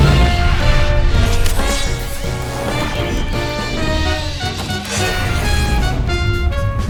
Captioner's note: robot whirs